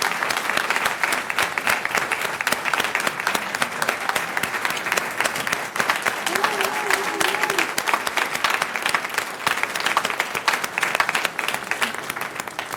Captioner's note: applause